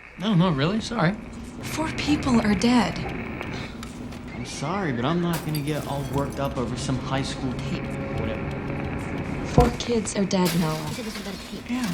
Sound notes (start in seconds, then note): 5.2 scoffs